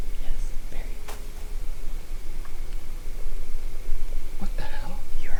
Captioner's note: distant bang